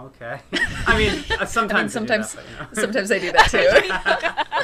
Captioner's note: laughter